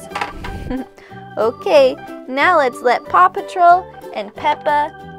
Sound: voice-over

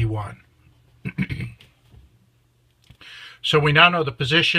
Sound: clears throats

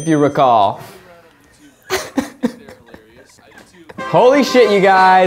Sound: laughing

